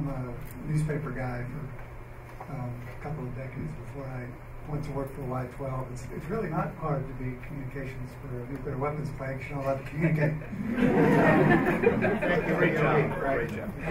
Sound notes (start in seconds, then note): 10.0 laughter